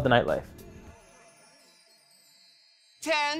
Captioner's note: bells chime